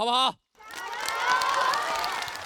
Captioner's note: cheers